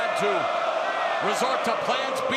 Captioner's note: crowd cheering